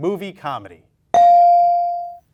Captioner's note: bell dings